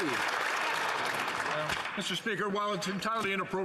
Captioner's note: some Applause